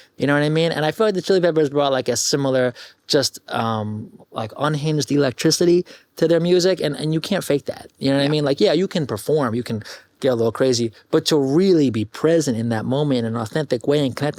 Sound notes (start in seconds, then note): none